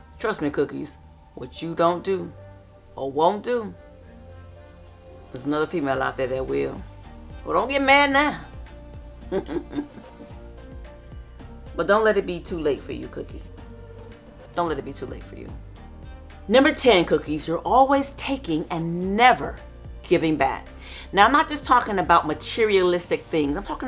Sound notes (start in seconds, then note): 9.2 chuckles